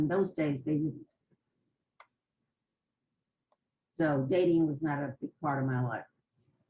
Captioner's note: pauses for 3 seconds